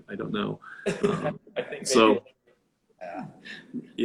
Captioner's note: laughing